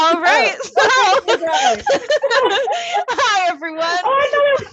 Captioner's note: laughing